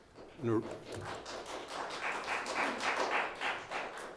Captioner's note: clapping